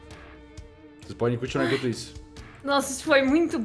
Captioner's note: sighs